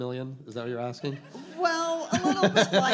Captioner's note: all laughing